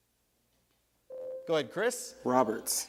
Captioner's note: buzzer sounds